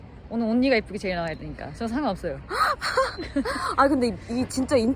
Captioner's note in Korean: 웃음